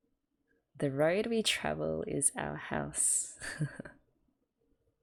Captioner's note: chuckles